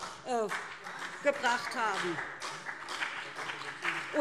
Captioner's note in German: Beifall BÜNDNIS 90/DIE GRÜNEN und CDU - Zurufe SPD